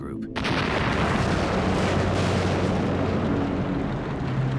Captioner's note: bomb exploding